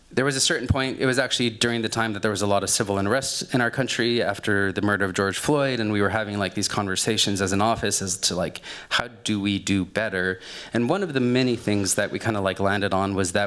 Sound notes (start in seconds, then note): none